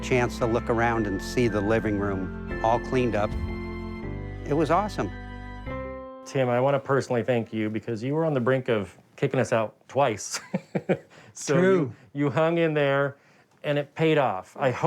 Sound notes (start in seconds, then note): 10.2 laughs